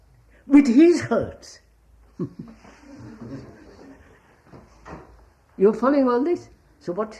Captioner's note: laughs